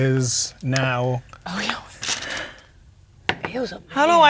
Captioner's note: dice rolling